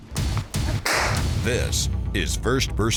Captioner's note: gun fires; voiceover